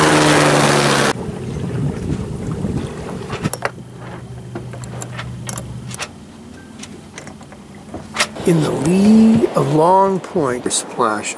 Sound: helicopter beating

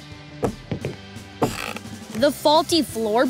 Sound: creaking

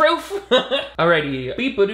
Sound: laughing

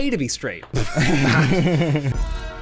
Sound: laughter

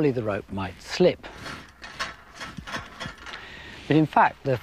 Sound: clinking

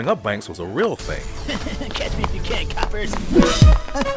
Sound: laugh

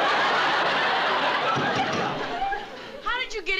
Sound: pounding

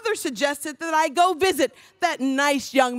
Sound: none

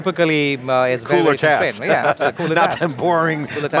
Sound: laughs

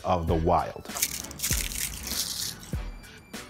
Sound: plastic being crushed; tech music

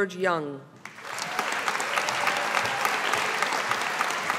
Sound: audience applauding

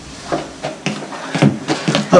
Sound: footsteps approaching

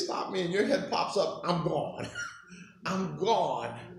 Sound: chuckling

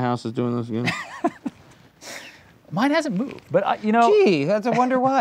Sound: laughs

